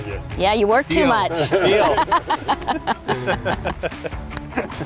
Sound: laughing

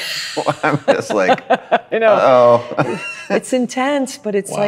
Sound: laughs

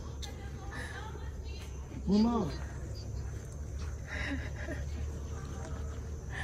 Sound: indistinct chatter in the background

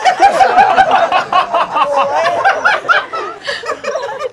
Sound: laughing

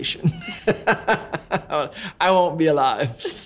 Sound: laughter

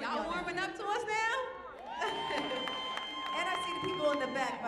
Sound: audience cheering

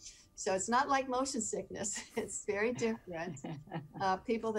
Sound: chuckling

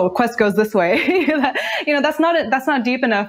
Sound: laughs

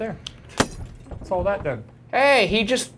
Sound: light bulb shatters

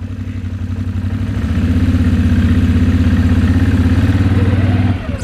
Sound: engine revving

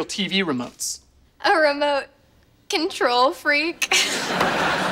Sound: chuckles

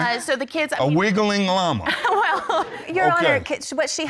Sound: laughing

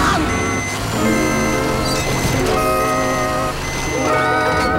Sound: beeping; screaming, beeping

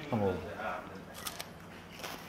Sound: Crunch

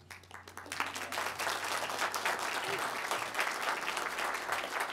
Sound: applause

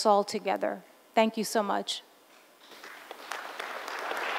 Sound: applause

